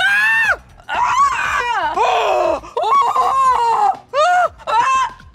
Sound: continues screaming; screaming continues

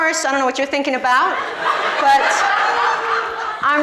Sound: audience laughs

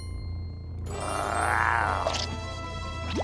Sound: growling

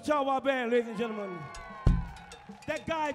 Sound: crowd cheering

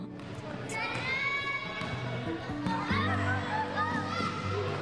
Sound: people cheering

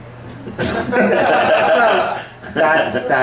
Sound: the audience laughs

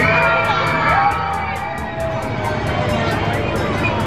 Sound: crowd screaming

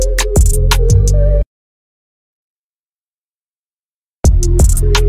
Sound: silence

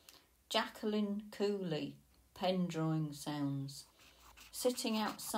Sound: pen drawing sounds

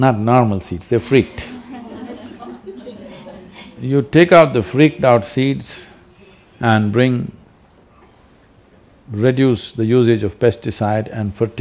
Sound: laughter

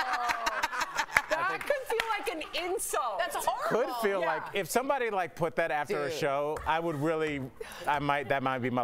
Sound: laughter

